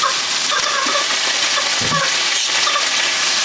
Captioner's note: my son is playing with a chicken toy that squeaks